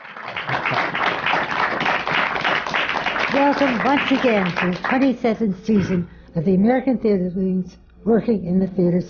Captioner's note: applause